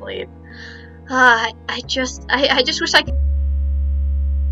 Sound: sigh

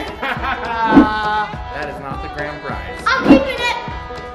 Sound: laughs

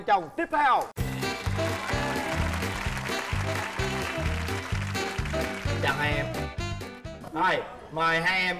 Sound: applause

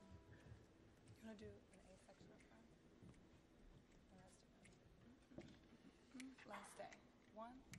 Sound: chattering; fingers snapping

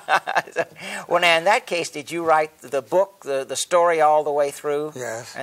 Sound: laughs

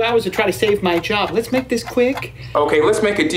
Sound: clock ticking

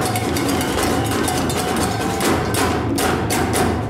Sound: whistle blows

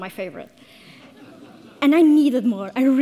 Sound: audience laughs

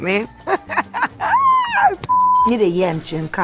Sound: laughter

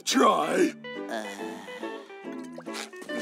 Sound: groaning; laughing

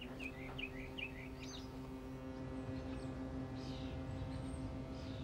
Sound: horn honking

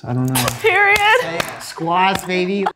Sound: clapping

